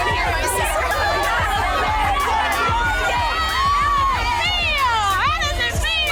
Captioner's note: upbeat music; women cheering